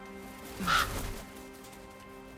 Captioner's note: caw